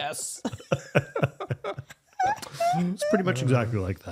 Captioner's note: laughing